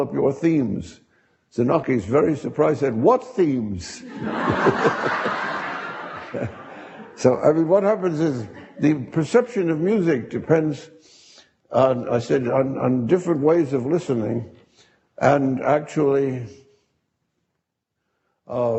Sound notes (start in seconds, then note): 4.0 audience laughing